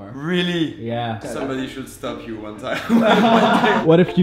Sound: laughs

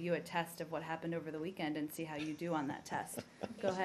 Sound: laughter

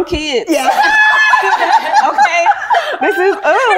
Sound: all laugh

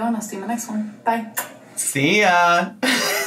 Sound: lips smooching; laughs

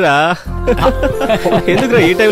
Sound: laughs

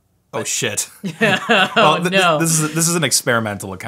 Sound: laughs

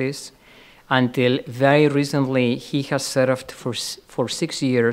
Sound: stutters

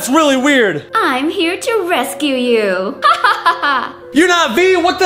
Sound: laughs

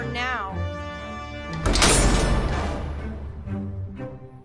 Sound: metal door slam SFX

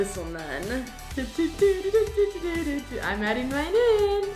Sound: vocalizing

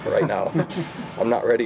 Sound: laughter

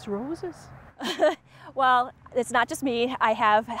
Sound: chuckles

